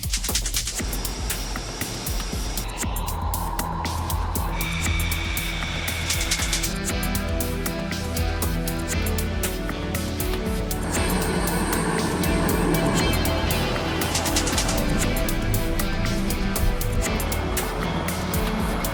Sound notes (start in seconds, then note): 0.1 rhythmic clicking; 1.1 idling jet engine; 2.6 jet engines; 3.6 jet engine; 6.1 rhythmic clicking; 10.7 jet engines; 12.9 jet engine; 14.1 rhythmic clicking; 15.1 jet engines; 16.9 distant jet engine